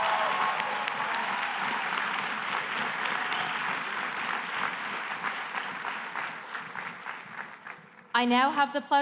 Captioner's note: applause